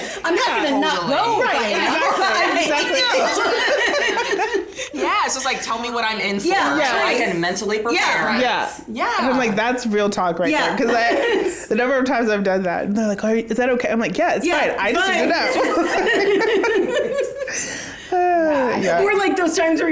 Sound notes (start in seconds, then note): 2.5 all laugh; 15.2 all laugh